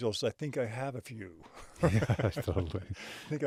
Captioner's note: chuckles